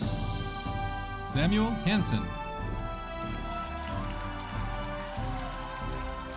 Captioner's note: audience cheering